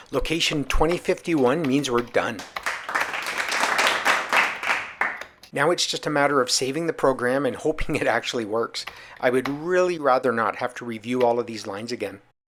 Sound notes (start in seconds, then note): 2.3 light crowd applause